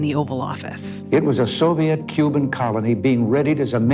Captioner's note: soundbite of archived recording